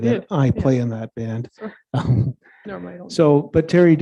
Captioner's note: chuckling